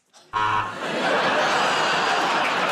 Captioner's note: laughter